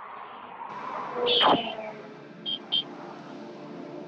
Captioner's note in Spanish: pitidos de cláxon